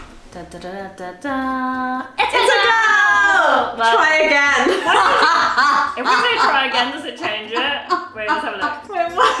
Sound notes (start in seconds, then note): 4.6 laughing